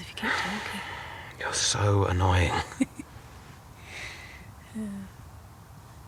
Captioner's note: laughs